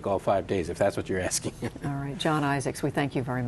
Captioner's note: laughter